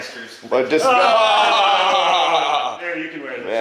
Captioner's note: all laughing